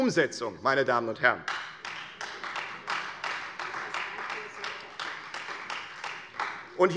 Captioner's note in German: Beifall Freie Demokraten und vereinzelt SPD